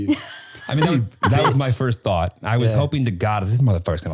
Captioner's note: laughing